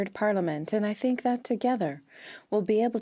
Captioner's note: speaking French